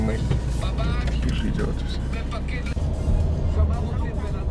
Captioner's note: radio chatter